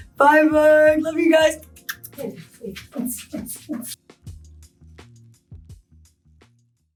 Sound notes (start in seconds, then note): 0.9 happy beat boxing; 4.5 cool gentle music